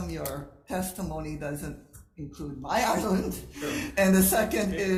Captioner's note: chuckles